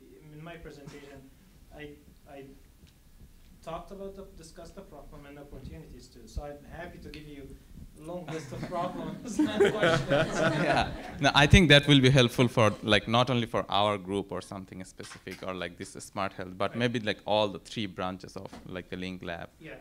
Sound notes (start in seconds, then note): 8.3 laugh